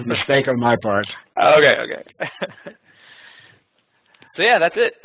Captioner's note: laughing